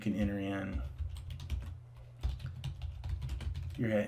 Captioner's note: keys typing